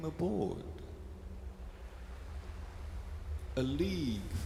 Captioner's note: sound of wind and waves